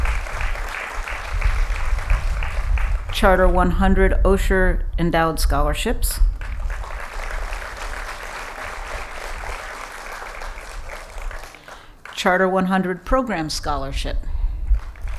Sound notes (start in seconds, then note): 0.0 applause; 6.3 applause; 14.7 applause